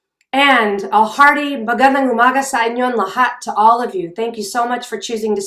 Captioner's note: speaking in a foreign language